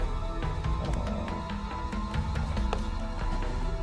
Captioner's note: the dog growls